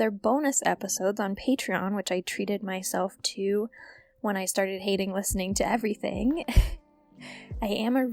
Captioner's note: laugh